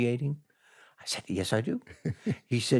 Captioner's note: chuckles